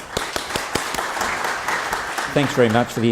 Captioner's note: applause